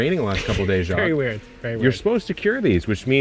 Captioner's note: laughing